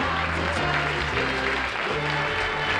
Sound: applause

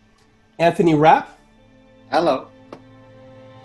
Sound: none

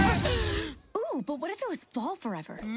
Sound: gasping

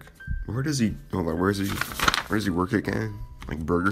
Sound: paper shuffling sounds

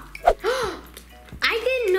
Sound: gasps

